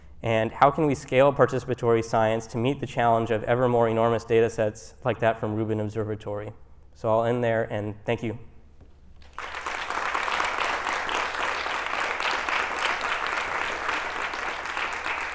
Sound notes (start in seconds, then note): 9.2 applause